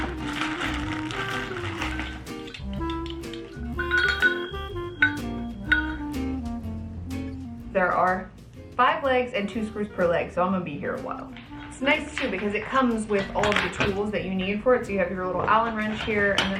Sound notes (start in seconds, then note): 0.0 plastic wrap rustling; 3.0 metal clanking; 5.8 gentle music continues